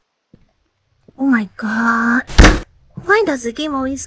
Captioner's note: table bang